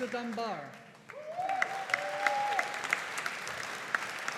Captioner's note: audience applauding